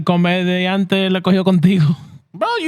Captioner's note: speaking Spanish